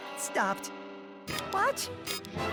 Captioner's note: nervous whimper